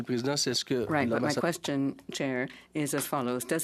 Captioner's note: speaking in French